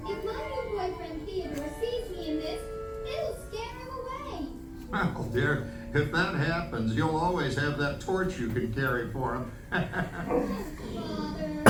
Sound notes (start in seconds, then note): 5.3 Il glousse